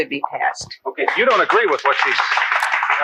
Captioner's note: audience claps